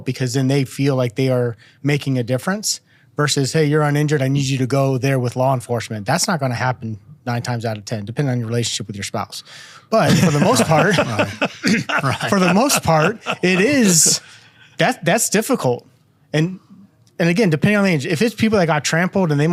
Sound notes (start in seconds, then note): 10.0 laughing